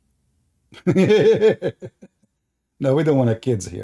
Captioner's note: Ketawa